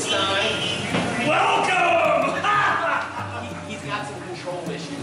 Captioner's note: laughs